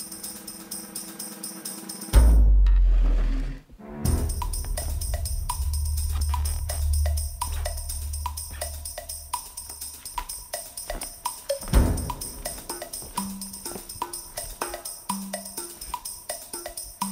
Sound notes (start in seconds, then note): 1.3 window slides open; 6.8 creaky floors; 11.2 footsteps